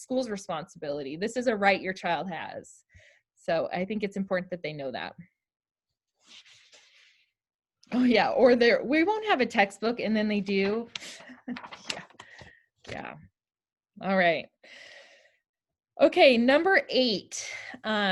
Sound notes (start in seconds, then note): 11.2 laughter